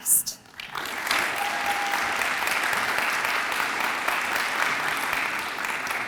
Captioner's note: audience applauds and cheers